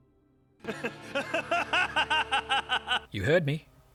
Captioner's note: scornful laughter